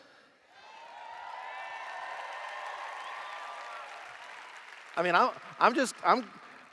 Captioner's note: cheers